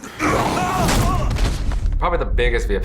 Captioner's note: grunting